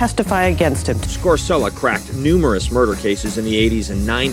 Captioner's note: voiceover